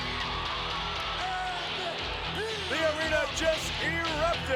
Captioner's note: entrance music plays; crowd cheers